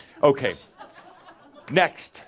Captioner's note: more giggles